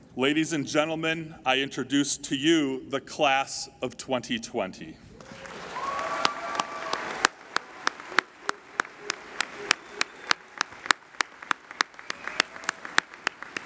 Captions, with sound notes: Ladies and gentlemen, I introduce to you the class of 2020. (applauding and cheering)